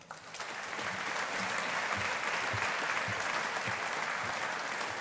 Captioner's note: audience applauding